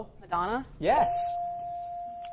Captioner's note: bell dings